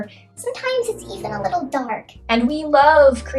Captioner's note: high-pitched voice